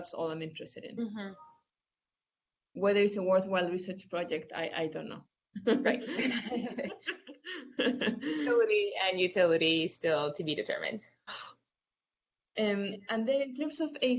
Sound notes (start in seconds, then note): 5.8 laughs